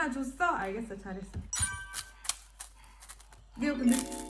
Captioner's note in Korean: 냠냠냠